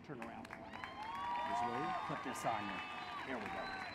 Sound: applause

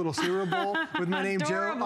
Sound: laughter

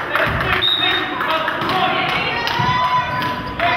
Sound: whistle blows

